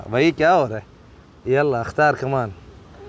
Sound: Arabic

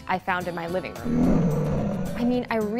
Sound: beast roaring

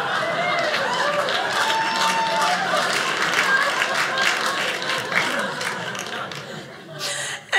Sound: audience applauding; audience laughing

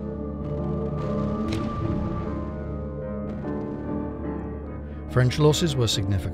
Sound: ominous music; explosions boom

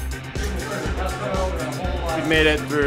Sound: people chattering

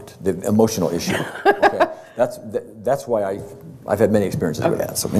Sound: laughter

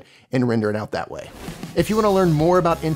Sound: air swishing

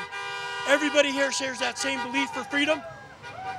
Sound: cars honking; people cheer

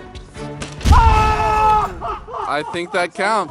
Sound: primal screaming

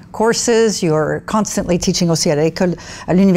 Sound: speaking foreign language

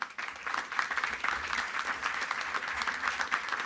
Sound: applause

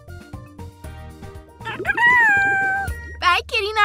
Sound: chirps

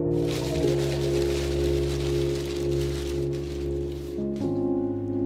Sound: newspaper crackling

